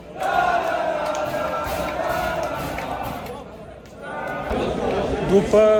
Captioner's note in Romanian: Aplauze